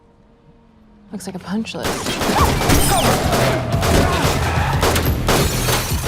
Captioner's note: gun shots firing